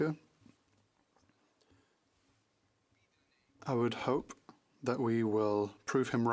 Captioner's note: speaking French